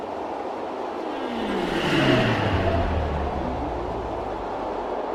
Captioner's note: aircraft whirring